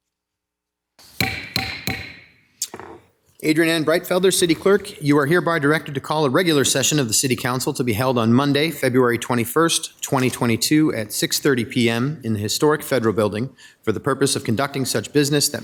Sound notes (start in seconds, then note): 1.4 gravel tapping